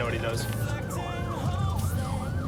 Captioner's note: siren blaring